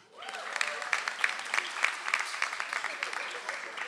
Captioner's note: audience applauds